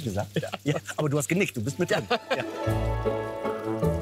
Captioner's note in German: lacht